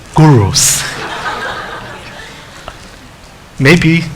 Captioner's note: laughing